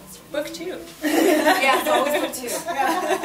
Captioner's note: laughs